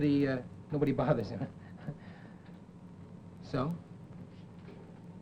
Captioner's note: chuckles